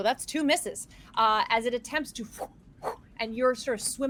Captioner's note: mimics whooshing